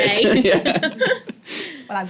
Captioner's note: chuckles